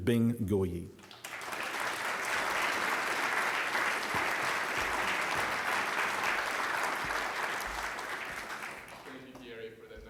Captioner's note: applause